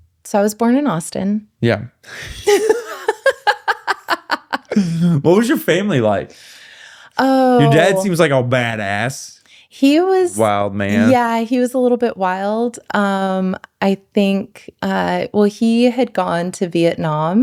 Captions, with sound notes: So I was born in Austin. Yeah. (laughing) What was your family like? Your dad seems like a bad ass. Wild, man. Yeah, he was a little bit wild. Well, he had gone to Vietnam.